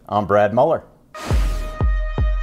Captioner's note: drum beats; air rushing